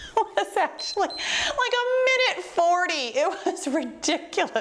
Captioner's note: laughs; timer beeps